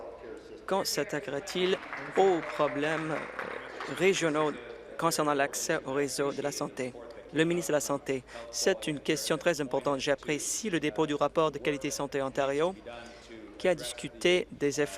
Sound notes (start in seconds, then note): 4.3 applause